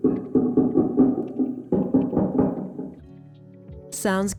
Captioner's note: tapping